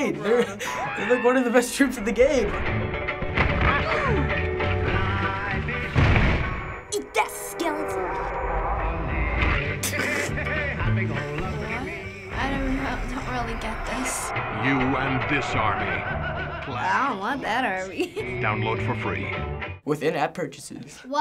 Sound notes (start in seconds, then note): 3.9 explosions; 9.8 chortles